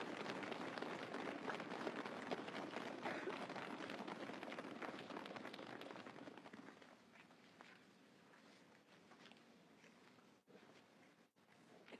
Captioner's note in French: applaudissements